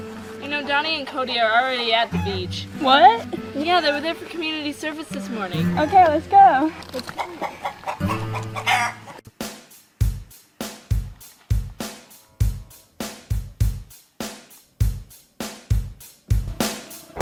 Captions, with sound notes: I know Donnie and Cody are already at the beach. - What? Yeah, they were there for community service this morning. - Okay, let's go. (chickens clucking) (upbeat rock music)